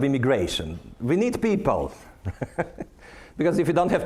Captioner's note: laughing